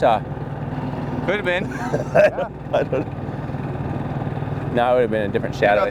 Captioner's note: laughs